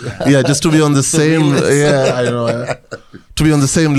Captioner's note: rires